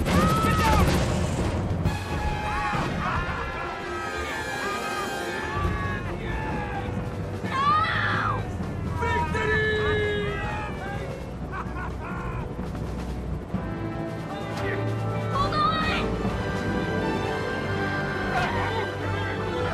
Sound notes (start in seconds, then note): 2.4 cackling; 11.0 laughs